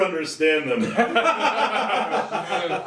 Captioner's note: audience laughing